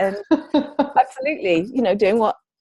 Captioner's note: laughs